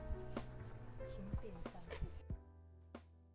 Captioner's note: light walking